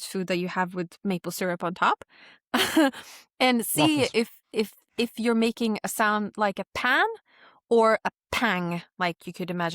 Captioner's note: chuckles